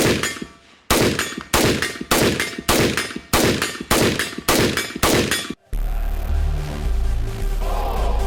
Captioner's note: gunfire pinging steel